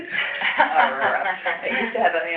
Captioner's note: laughter